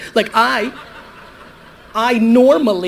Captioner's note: audience laughter